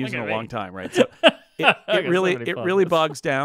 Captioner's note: laughs